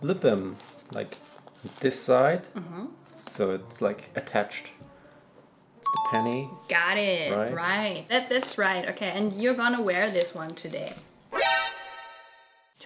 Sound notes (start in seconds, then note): 5.8 bell dinging; 11.3 surprising music